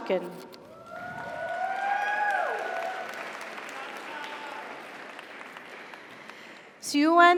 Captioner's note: audience cheers; audience applauds